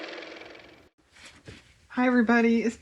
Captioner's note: car motor